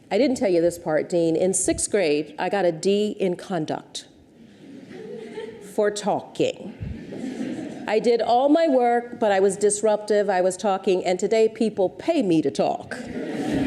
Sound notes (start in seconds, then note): 4.6 audience titters; 6.9 audience chuckles; 13.0 audience laughs